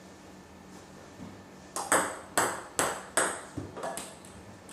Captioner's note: ball ping pong hitting continues